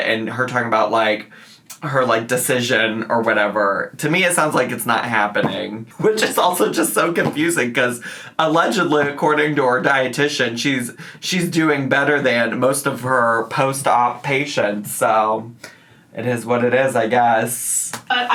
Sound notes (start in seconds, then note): none